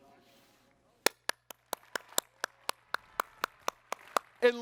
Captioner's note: applause